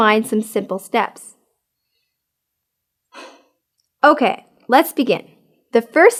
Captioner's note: sigh